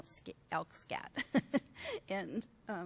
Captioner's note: laughs